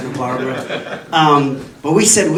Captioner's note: audience laughing